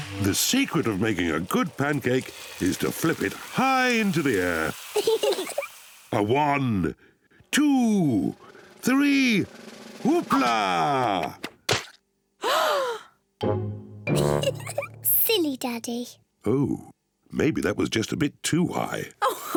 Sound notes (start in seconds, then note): 5.0 both giggle; 12.4 all gasp; 14.2 giggles; 19.3 laughs